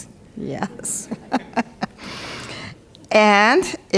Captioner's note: chuckles